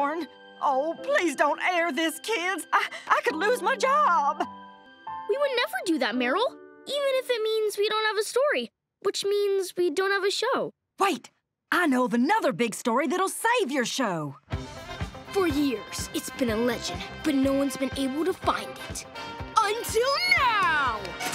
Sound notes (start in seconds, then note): none